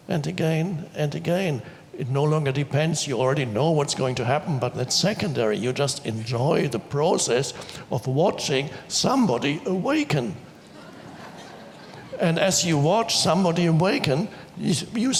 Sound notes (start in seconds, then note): 10.5 audience laughs